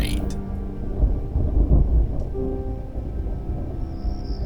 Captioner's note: thunder rumbling